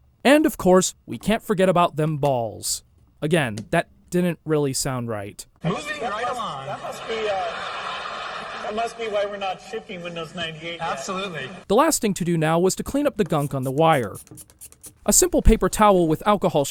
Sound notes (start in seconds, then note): 6.0 audience laughs